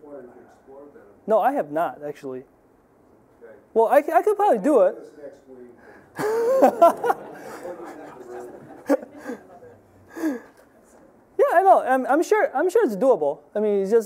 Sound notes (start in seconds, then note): 6.1 audience laughing